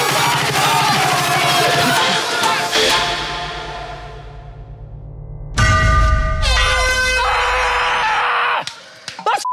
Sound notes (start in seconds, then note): 5.6 bell rings; 6.5 horn beeping; 6.5 screams